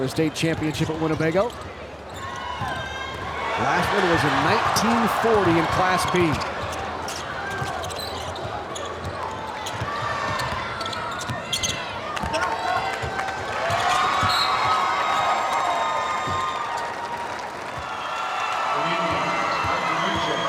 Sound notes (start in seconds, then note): 12.0 audience cheering